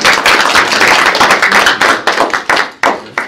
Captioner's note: applause